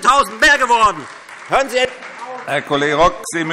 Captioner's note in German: Beifall Freie Demokraten